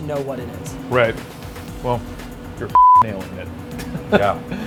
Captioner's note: beep; laughs